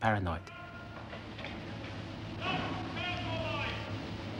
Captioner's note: men shouting